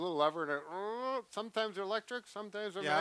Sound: imitating car seat adjustment whirring

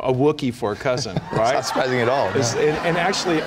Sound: laughter

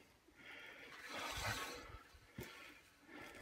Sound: heavy breathing

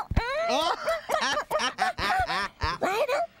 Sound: kissing

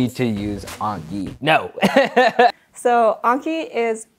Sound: laughs

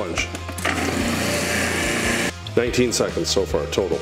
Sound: blender whirring

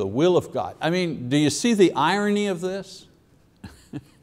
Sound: chuckles

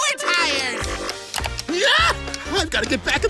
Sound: squealing

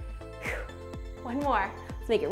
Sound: exhaling

